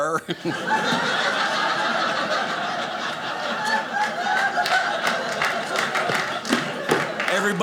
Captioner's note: audience laughing